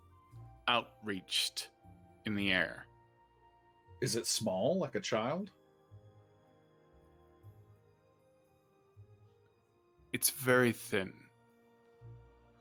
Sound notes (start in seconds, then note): none